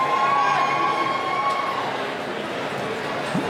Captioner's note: cheering